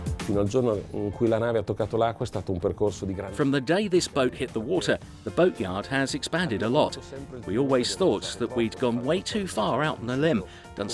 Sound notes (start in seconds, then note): 1.0 speaking Italian